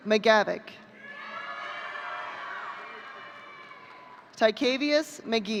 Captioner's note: audience cheering